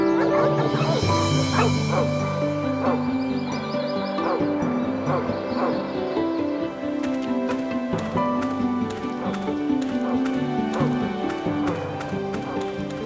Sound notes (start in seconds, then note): 0.1 barking; 0.9 bright music; 6.3 bright music continues; 10.6 barking